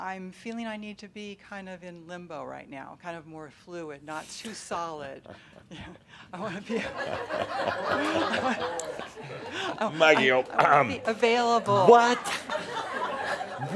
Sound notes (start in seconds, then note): 6.9 chuckles; 10.9 laughter